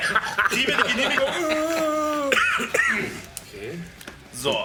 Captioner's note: zombie noise